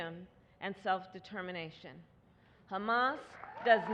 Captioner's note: applause